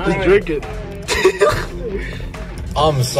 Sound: laughing

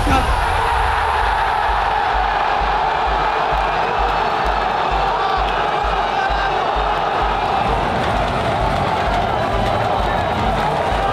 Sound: crowd screaming and chanting

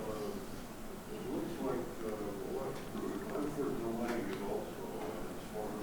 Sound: speaks in a low tone

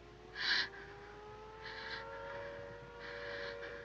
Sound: air-raid siren

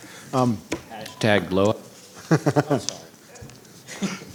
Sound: laughs

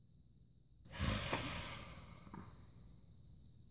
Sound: sigh

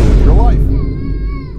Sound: Cries for Yuuka

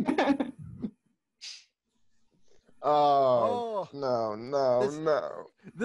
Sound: groans, oh no

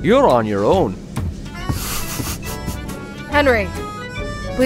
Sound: footsteps receding, Tralnis snickers

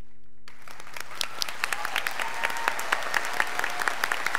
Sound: scholars applauding

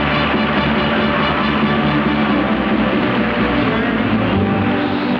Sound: audience applauds

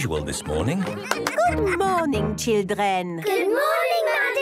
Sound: claps

